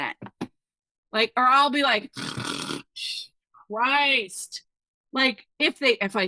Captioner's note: snoring